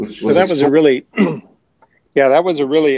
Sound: clears throat

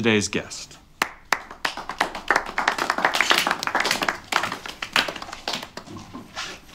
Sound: weak applause

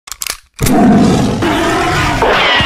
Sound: sabretooth cat snarl

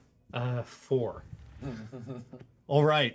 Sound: speaker chuckles

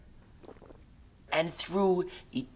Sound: gulping

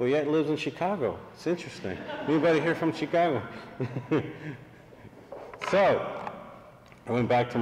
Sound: laughter

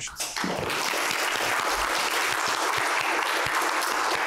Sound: applause

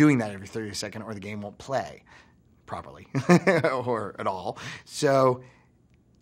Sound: laughs

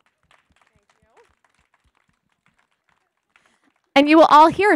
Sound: clapping

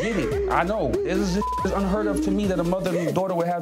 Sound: beep

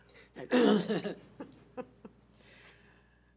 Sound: laughter

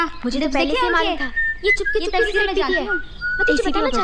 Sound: whistling

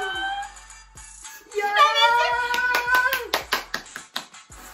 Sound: subconsciously claps

